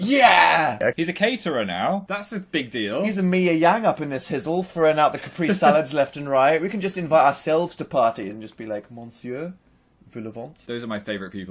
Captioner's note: mówi po francusku